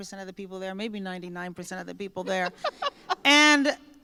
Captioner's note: laughter